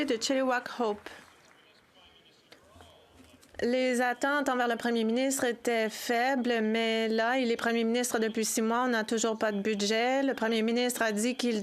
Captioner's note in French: voix de l'interprète